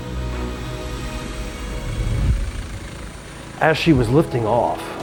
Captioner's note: helicopter whirring